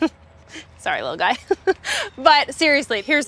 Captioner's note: laughs